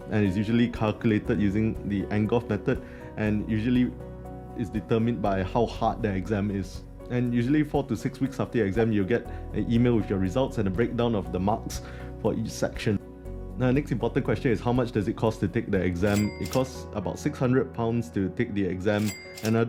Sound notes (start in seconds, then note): 16.0 till ringing; 18.9 till ringing